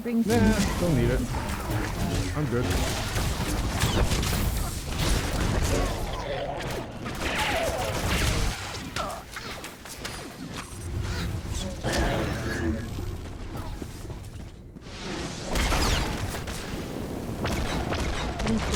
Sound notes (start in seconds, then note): 5.4 gunshots